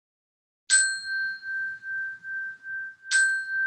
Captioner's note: chime